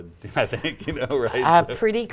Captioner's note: laughter